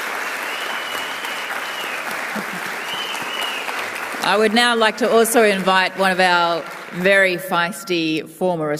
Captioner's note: cheering and applause